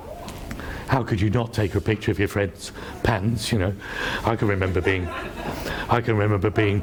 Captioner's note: laughs